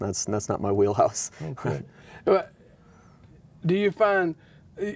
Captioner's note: chuckling